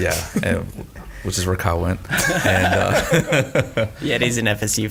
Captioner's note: all laughing